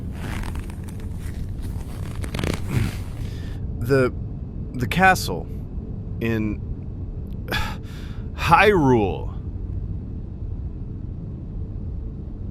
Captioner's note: choke